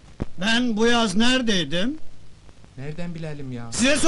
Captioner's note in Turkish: söyleni̇r